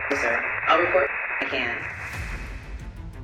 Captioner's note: static